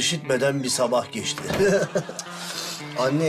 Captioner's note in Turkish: Gülme sesi